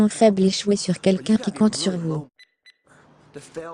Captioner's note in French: bip, bip